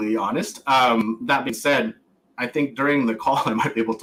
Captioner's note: laughs